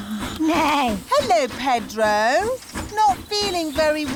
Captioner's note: neighs